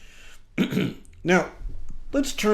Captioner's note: clears throat